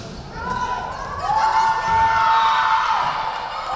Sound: crowd cheering; referee whistling

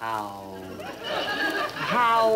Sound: audience laughing

